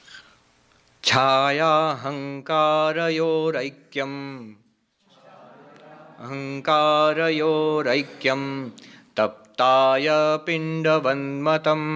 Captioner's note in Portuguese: Recitando verso do livro em sânscrito